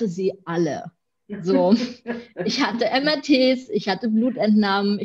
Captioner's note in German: lacht